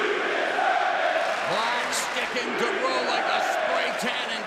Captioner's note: crowd chatter